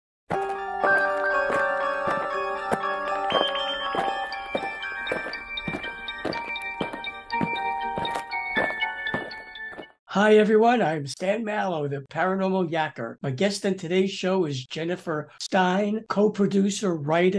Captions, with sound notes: [eerie music] [aliens marching] Hi, everyone. I'm Stan Mallow, the Paranormal Yakker. My guest on today's show is Jennifer Stein, co-producer, writer,